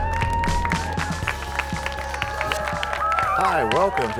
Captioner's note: cheers and applause